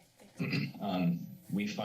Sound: clears throat

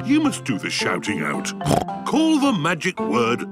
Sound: snorts

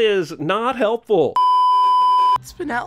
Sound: beeeeeep

